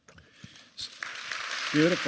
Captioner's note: applause